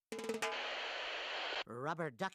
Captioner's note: static buzzing